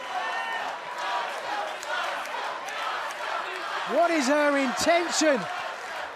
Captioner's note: fans chanting